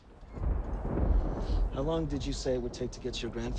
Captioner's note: thunder rumbling